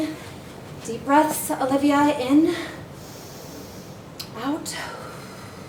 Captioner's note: breathes in; breathes out